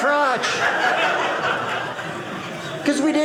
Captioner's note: audience laughing